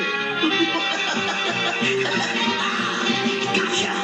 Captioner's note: laughing